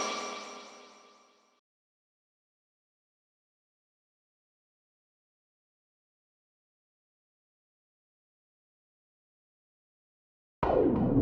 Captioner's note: silence